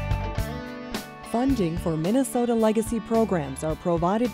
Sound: voiceover

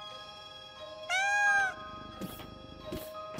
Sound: meowing

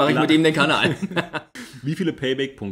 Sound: laughs

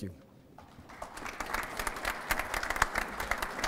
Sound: applause

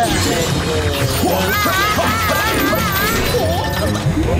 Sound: screaming

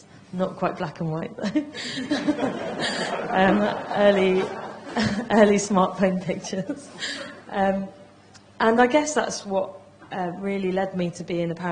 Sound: laughter

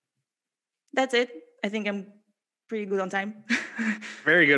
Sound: laughs

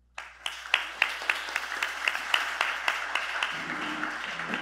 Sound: applause

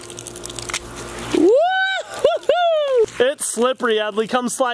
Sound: joyfully screams

